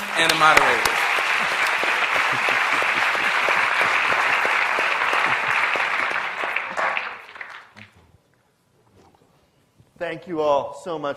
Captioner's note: applause